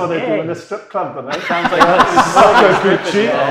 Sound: audience laughing

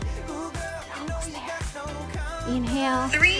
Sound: whispers

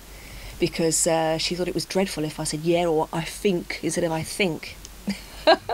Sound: imitates local accent

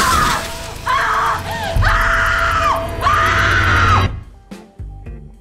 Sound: cracking; screaming

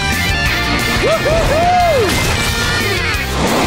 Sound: smashing taco

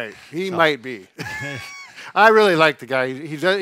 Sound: laughs

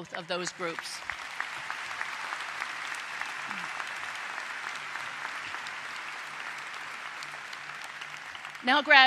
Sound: applause

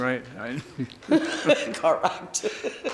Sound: laughing

